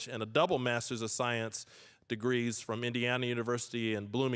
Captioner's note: none